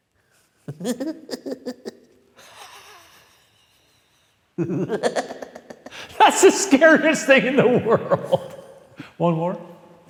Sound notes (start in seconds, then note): 0.8 goofy laughs; 6.4 laughs